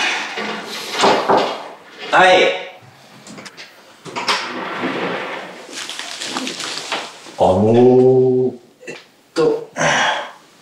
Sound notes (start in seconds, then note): 1.0 knock knock